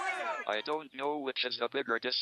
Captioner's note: crowd cheering; electronic Voice